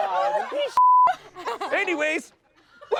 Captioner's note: beep